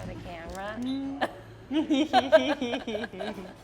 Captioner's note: laughing